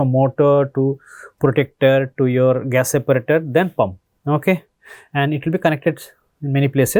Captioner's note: pwf